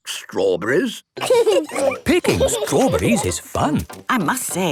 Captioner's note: laughing